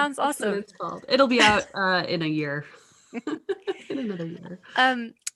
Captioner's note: chuckles